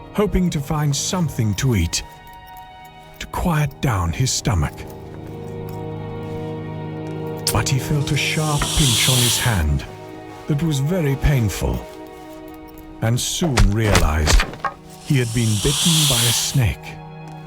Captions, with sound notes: hoping to find something to eat to quiet down his stomach, (soft orchestral music continues) but he felt a sharp pinch on his hand (snake hissing) that was very painful, and he soon realized he had been bitten by a snake.